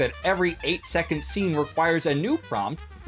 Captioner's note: none